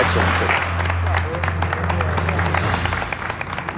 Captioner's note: applause